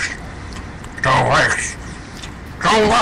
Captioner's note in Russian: чавкание